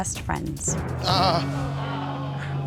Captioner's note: groans